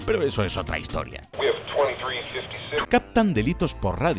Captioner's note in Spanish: radio